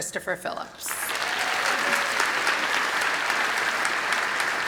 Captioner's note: applause